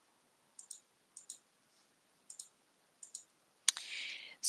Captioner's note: mouse clicking